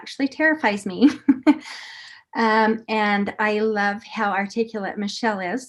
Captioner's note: laughter